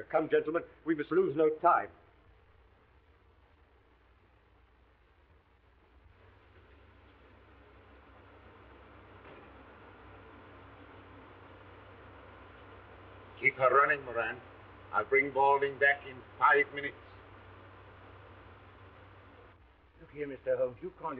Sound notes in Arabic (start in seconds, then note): 6.7 هدير المحرك